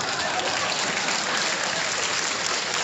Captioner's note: applause